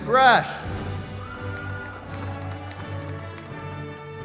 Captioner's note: cheering